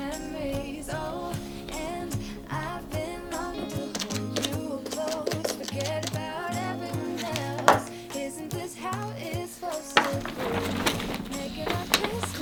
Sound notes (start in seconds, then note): 4.8 SFX: Removing fur; 9.9 SFX: Rustling